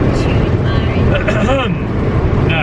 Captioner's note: clearing throat